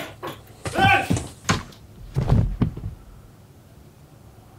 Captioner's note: loud commotion; loud thud